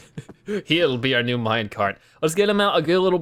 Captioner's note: laughs